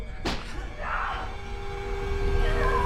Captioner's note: neighbor screams; tense eerie music intensifies